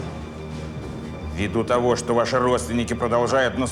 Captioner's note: speaking russian